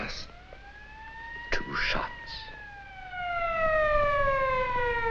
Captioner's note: siren wailing